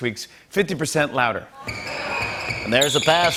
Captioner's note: sneakers squeaking